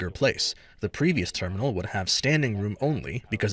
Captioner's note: speaking Indigenous LANGUAGE